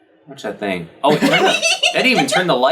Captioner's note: laughs